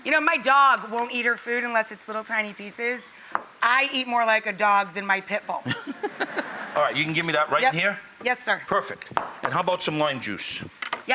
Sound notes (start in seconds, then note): 5.6 Emeril laughs